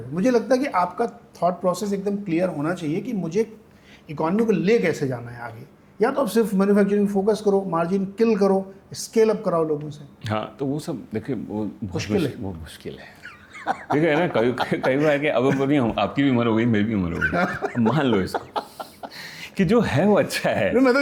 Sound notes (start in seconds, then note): 13.2 laughter